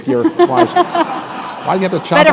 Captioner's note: laughter